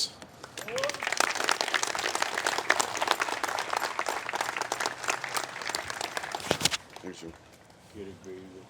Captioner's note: applause